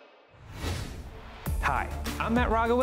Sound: graphics whooshing

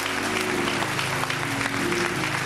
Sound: applause

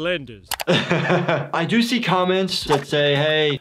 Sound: chuckles

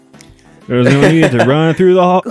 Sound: laughs

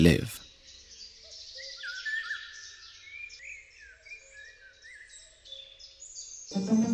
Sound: singing birds; lively music, birds singing

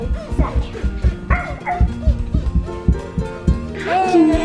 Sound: kids barking

